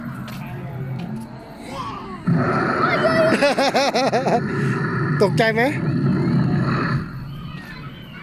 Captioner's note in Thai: เสียงร้อง